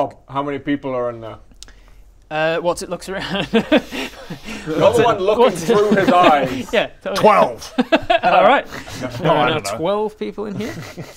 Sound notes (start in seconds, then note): 7.6 worrying laugh